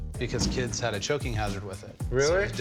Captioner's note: laughs